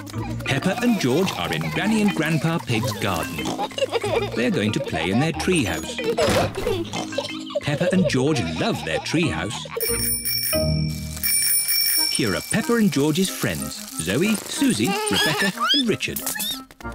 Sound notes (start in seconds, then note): 9.8 bicycle bells ringing